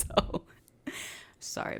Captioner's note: laughs